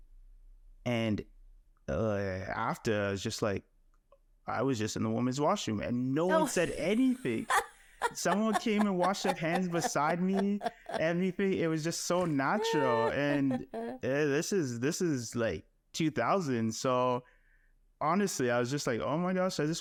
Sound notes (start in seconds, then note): 8.0 laughing